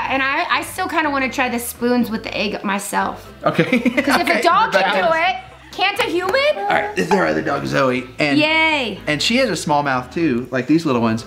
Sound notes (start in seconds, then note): 3.5 laughs